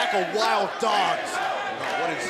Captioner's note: crowd chatter; crowd cheering